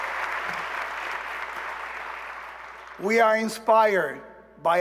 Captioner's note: applause